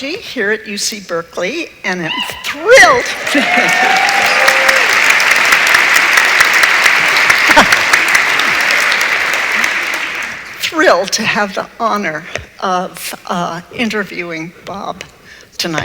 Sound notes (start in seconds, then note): 2.9 audience applauds